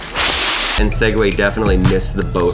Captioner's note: leaves rustling